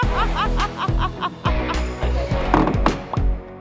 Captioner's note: laughs